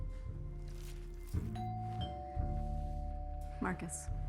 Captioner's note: doorbell ringing